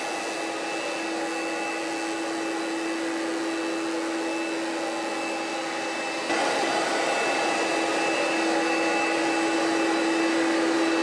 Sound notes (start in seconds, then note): 6.2 carpet cleaning machine hums loudly